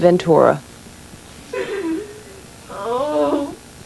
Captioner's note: sobbing